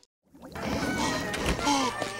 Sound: heavy breathing

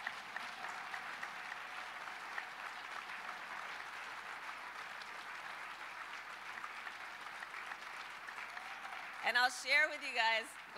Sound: applause

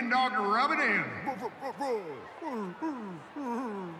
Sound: mascot barking

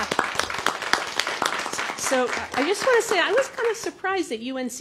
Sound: applause

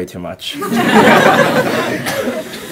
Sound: laughter

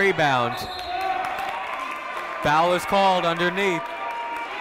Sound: cheering; whistle blowing

